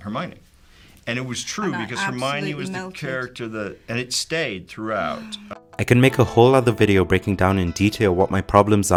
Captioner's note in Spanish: JK Rowling suspira